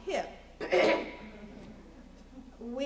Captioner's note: laughter